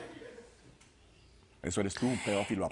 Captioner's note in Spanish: Risas